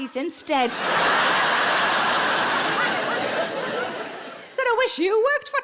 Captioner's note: audience laughs